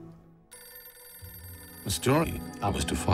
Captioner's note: phone ringing